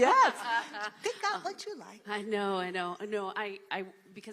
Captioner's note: laughter